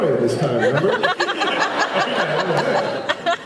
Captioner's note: laughs